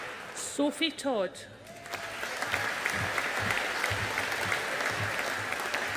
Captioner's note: audience applauding